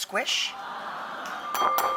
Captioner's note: audience awes; bowl clanging